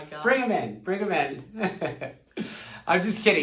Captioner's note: chuckles